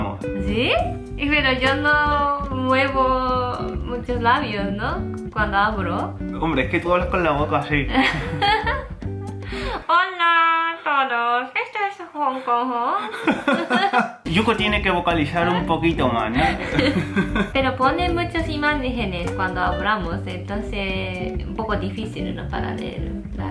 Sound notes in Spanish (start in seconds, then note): 8.0 risa; 13.1 más risas; 16.3 risas